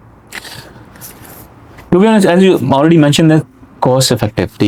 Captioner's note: nasal sound